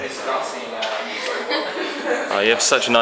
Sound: laughs

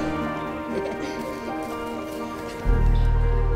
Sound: laughing

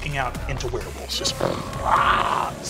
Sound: imitates werewolves

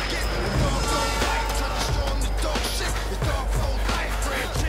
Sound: train whistle sounding

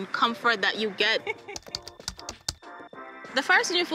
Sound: laughter

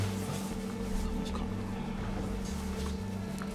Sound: whispers

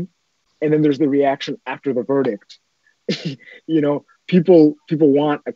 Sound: laughs

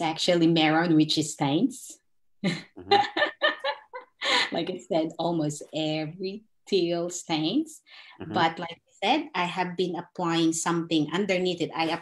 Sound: laughs

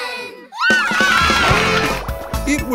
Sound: cheering

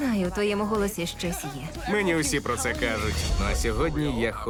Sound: laughs

